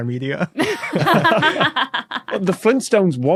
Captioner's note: group laughing